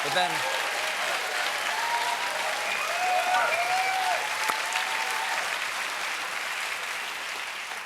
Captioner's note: cheers and applause